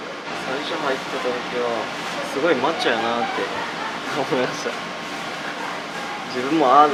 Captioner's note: laughs